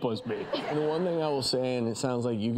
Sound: audience laughs

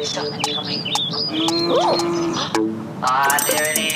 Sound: cow moos

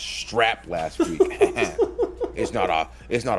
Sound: laugh

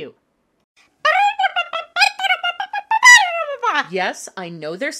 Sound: demon babbling

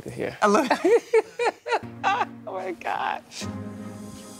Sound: laughing

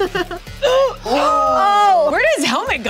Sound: all gasping

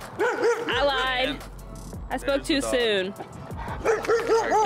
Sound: barking dog

